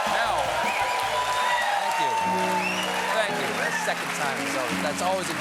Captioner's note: cheers and applause